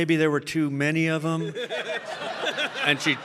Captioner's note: all laughing